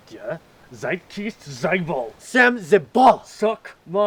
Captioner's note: both speaking Russian